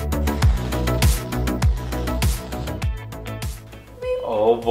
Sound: whipped cream can spraying

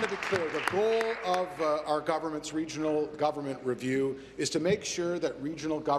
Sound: some Applause

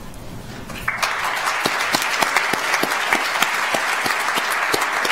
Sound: audience applauds

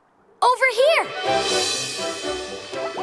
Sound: none

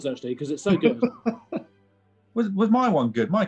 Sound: laughing

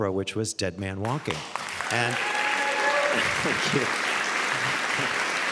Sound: audience cheering

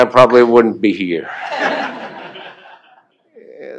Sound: laughter

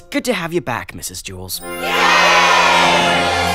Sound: cheering

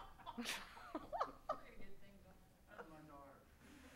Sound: laughing

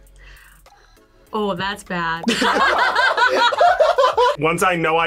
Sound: both laugh

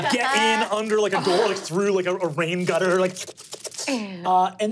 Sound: slurping

